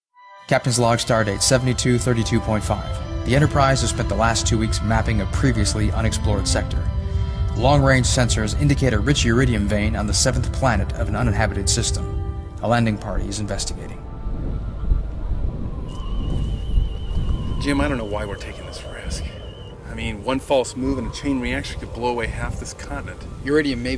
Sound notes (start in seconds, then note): 16.3 scanners hum